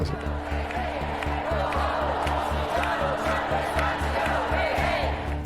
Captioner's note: protesters shouting